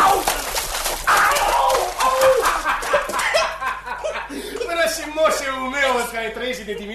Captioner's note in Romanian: Aplauze